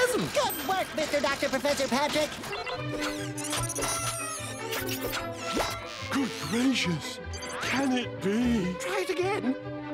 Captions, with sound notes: Good work, Mr. Doctor Professor Patrick! [whirring] Good gracious! Can it be? Try it again!